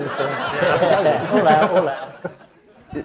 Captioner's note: audience laughs